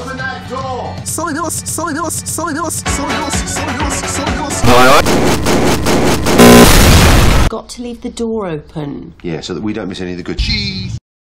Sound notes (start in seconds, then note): 6.3 hair clippers and explosion